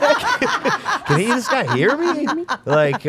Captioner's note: group laughing